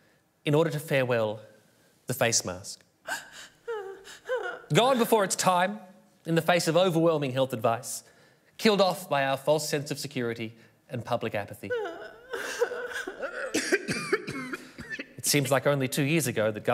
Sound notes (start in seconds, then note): 3.0 sobbing; 11.6 sobbing and coughing